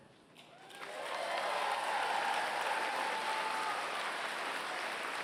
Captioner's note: applause